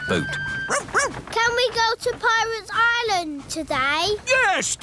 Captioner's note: barks